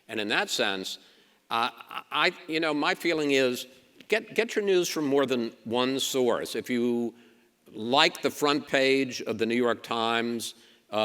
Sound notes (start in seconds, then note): none